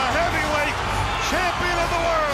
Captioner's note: crowd cheering